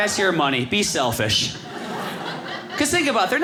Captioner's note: audience laughing